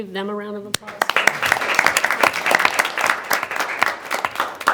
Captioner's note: everyone applauds